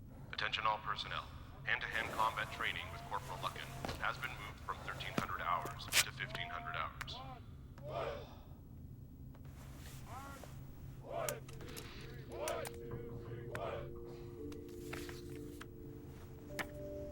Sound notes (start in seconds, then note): 7.7 army chanting; 10.8 soft music